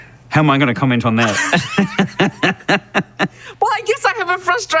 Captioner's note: laughing